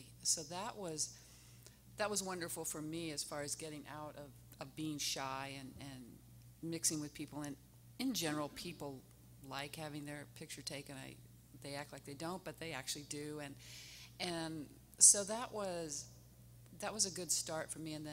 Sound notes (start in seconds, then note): none